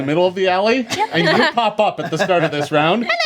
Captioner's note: group laughs